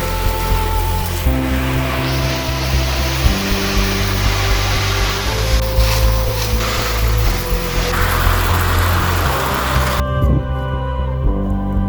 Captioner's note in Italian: Applauso